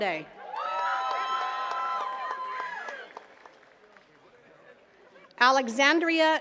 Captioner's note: attendees cheering and clapping